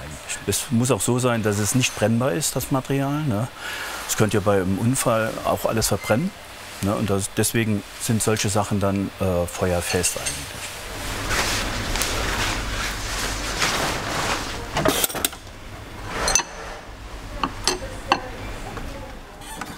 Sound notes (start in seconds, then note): 10.5 rustling; 14.5 quiet hissing